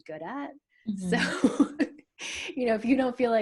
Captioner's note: laughs